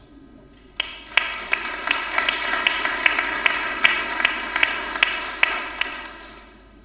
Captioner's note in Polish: oklaski